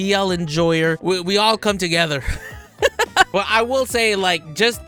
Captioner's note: laughs